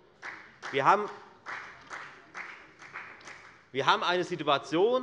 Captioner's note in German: Beifall bei der FDP